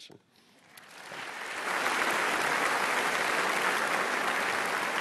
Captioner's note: applause